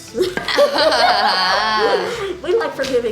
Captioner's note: laughter